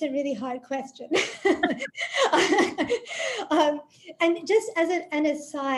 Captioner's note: laughs